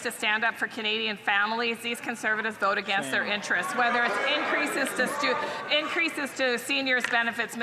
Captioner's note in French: voix de l'interprète